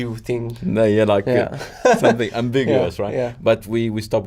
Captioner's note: laughs